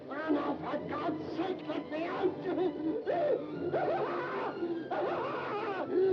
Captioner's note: screams